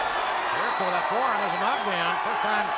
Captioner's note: crowd cheering